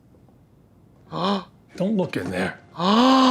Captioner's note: Trixie gasps